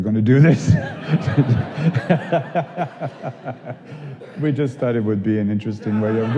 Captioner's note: laughing